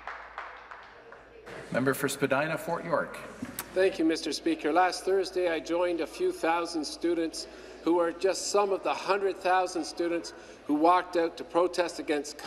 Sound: cheers and Applause

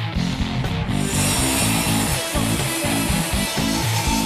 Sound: saw grinding

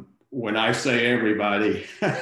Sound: laughs

